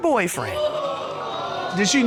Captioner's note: audience exclaiming